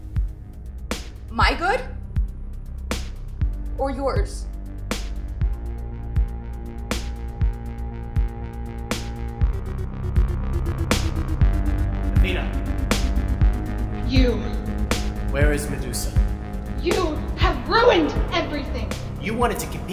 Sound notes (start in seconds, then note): 9.6 tense music; 9.6 the gods' voices echoing